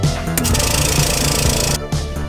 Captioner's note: vacuum-sealer vibrates